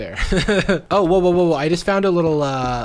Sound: laughs

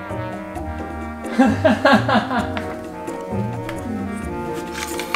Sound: laughing

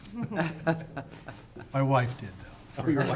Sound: laughing

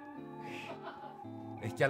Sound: laughs

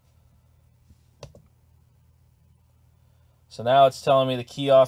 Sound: mouse clicking

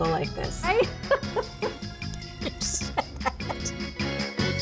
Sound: laughing; uptempo music

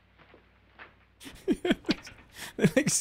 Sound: laughs

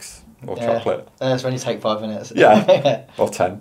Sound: laughs

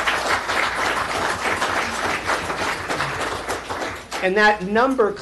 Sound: applause

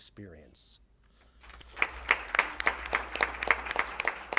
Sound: applause

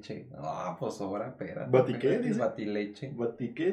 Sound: laughing & admiring joke

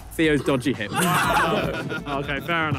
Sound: players laugh

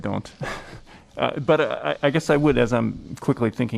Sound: laughter

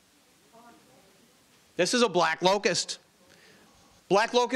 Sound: audience murmuring

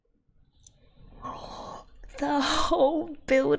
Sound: gasps

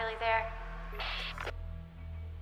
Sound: radio bleep

